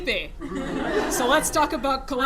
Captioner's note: laughter